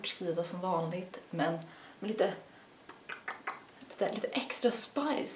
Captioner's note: pop pop pop